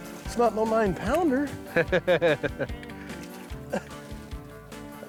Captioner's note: laughing